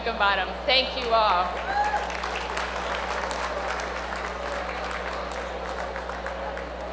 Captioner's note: applause